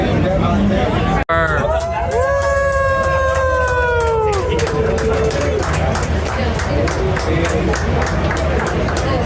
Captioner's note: applauding